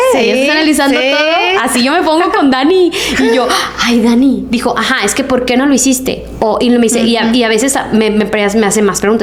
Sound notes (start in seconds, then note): 3.1 laughs